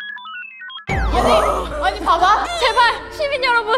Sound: crackup

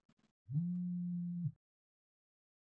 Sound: phone vibrates

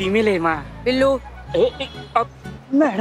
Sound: stammering

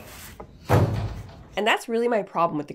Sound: vegetable thuds

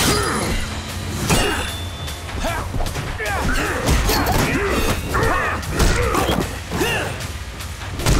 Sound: grunting

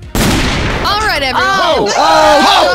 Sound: gunshot

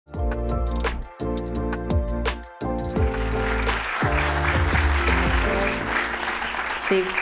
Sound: applause

